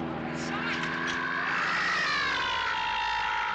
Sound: squawking

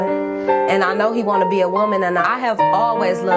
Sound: none

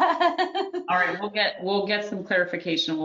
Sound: laughing

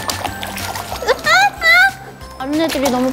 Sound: splash splash!

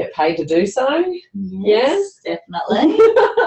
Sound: laughter

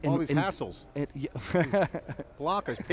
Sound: laughs

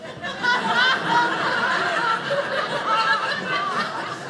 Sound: audience laughing

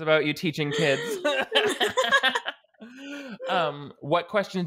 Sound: both laughing

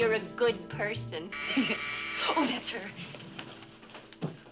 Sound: doorbell buzzes

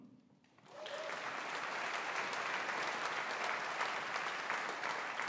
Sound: audience applauding

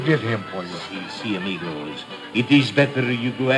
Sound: speaking in Spanish

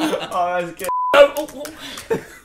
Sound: beep

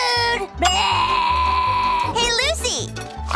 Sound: groaning

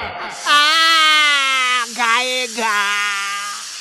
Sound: screams in pain

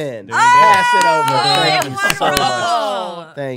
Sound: cheering

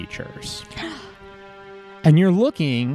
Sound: gasps

